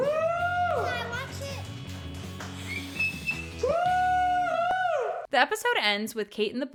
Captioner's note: whistles